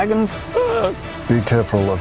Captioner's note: cowardly scream